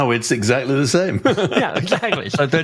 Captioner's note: laughs